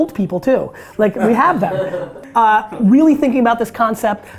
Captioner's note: group laughter